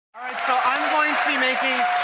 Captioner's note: audience cheers